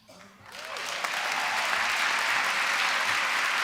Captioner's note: applause